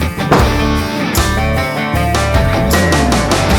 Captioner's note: upbeat rock music continues; metal thuds